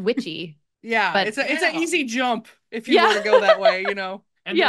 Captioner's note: laughs